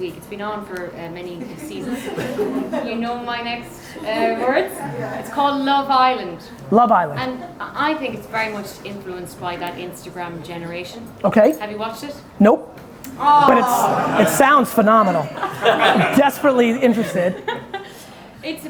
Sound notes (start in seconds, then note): 1.4 audience laughing; 7.1 audience chuckling; 13.1 audience groans